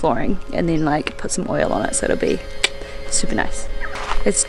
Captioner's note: click tongue